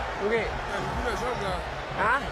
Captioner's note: speaking quietly